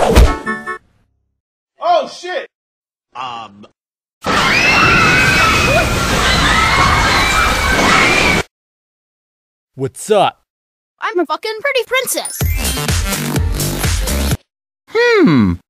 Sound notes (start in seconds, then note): 4.2 absoulute screaming